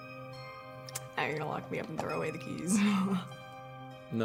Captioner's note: laughs